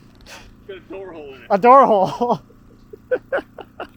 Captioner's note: laughs